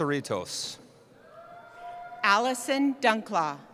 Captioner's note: cheering